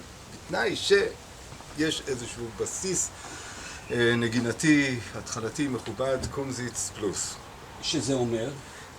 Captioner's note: campfire